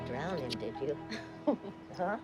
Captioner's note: laughing